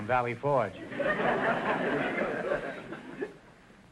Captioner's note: audience laughter